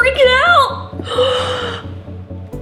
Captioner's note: gasp